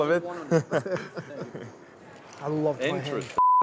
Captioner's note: laughing